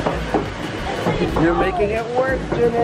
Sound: water running; feet stomping on wheel

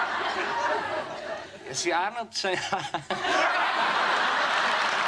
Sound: laughs

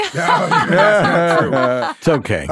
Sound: group laughing

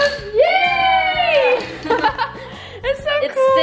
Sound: cheering

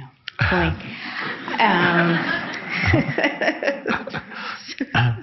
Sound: audience laughs

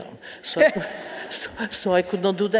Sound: audience laughing

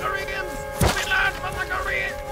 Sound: piercing flesh

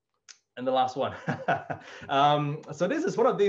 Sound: laughs

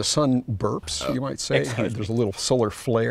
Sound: burps

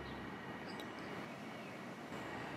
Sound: none

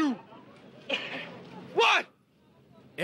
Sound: shouting

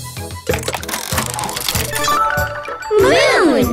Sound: mechanical whirring

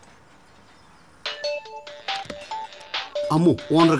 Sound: phone rings

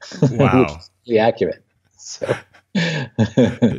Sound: laughs

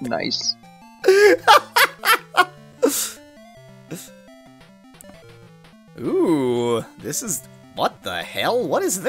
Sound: laughing

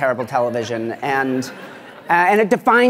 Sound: laughter

